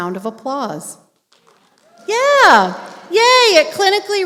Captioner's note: applause